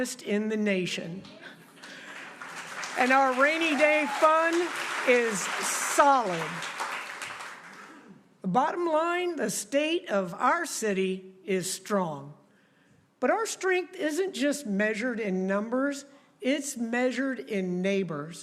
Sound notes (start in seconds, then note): 6.7 applause